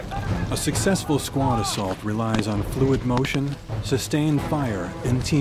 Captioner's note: voiceover